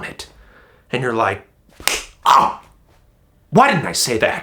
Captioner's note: groan